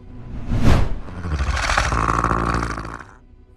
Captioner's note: grunting